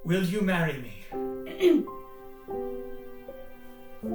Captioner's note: clears throat